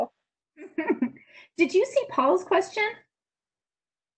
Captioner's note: laughs